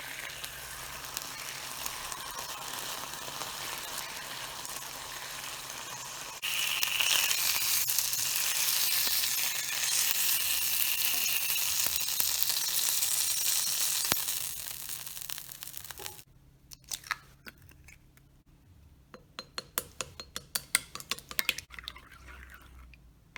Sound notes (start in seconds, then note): 7.0 sizzling